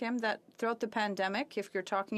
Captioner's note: speaking French